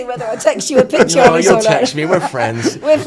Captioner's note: all laughing